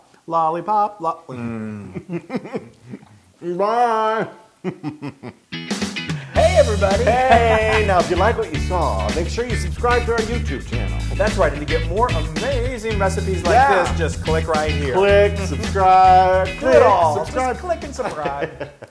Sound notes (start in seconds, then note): 1.4 laugh; 6.3 laugh